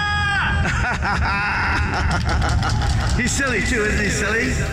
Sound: laughing

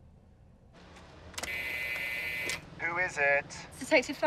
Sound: intercom buzzing

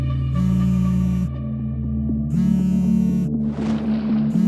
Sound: phone trilling; cellphone buzzing

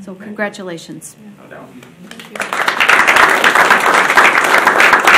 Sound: audience applauding

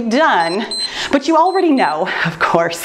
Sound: timer beeps

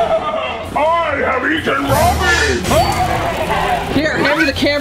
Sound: tree evil laughing; evil laughing

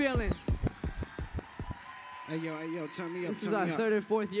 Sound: cheers

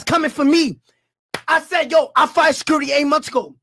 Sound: claps

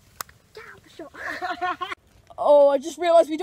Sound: laughs

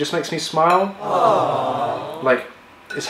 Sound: chorus of aww's

